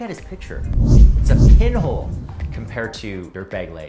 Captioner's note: air whooshing